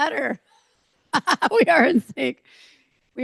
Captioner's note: laughs